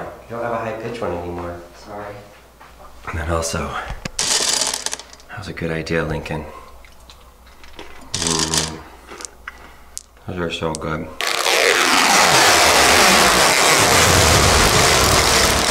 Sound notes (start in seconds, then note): 8.1 crunching candy; 11.2 loud, scratchy peeling